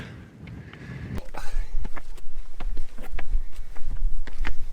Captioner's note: heavy breathing